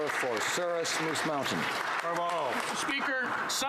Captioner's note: speaking French